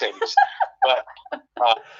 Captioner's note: laughs